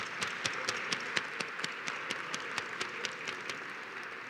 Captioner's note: applause